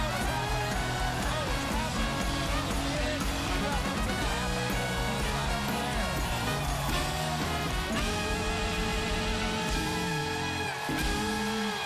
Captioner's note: cheers and applause